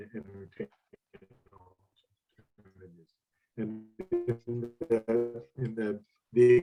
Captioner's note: speaker interrupted by static